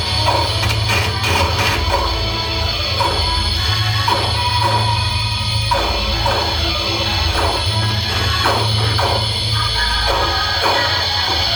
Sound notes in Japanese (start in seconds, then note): none